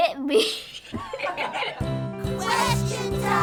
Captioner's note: and crew laugh